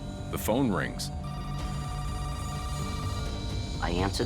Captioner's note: telephone ringing